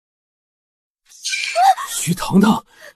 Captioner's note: shouts